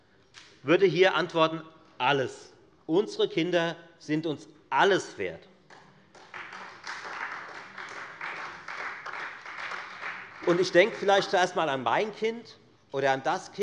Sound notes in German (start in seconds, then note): 6.1 Beifall